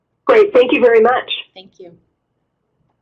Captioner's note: voiceover